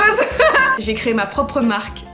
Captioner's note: nervous laughs